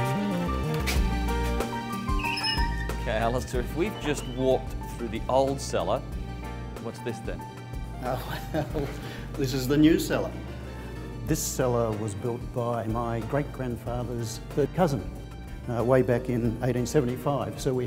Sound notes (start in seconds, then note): 8.1 laughs